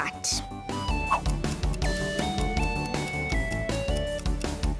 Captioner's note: timer starts ticking